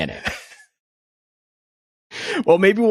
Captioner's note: laughs